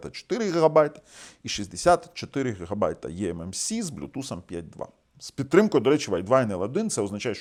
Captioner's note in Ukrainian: сопіння